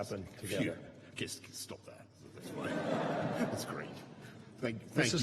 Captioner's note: laughter